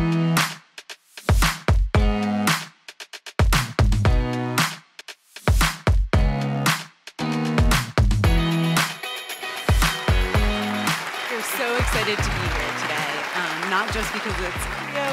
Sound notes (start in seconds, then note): 1.3 upbeat music; 9.5 audience applauding